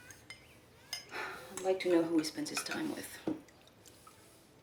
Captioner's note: sighs